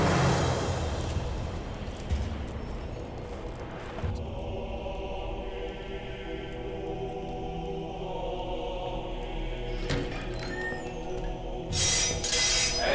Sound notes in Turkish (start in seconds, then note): 9.5 Kapı açılma sesleri; 9.7 Kapı gıcırdama sesleri; 11.7 Kılıç sesleri